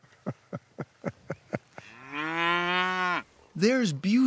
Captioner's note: laugh